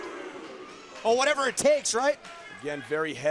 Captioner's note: crowd chatter